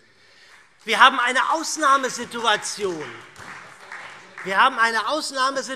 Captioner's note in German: Beifall SPD